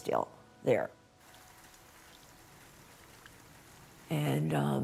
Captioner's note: rain gently rapping